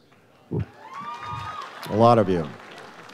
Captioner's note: audience cheers